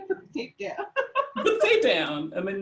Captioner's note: laughs